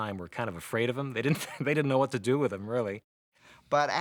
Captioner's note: chuckles